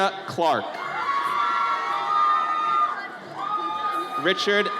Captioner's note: audience cheers